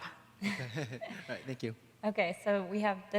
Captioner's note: laughs